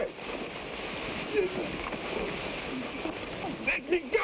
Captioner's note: men grunt